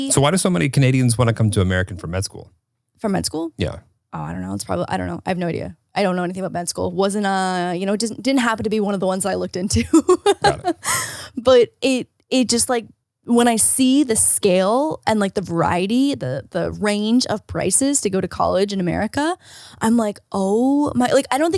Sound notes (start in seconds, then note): 9.8 laughs